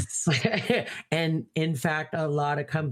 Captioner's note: laughing